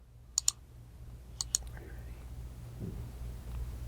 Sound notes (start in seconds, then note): 1.4 mouse clicking